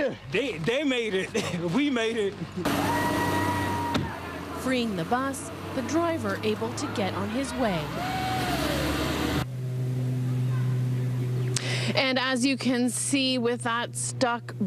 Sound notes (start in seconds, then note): 7.9 cheering and Applause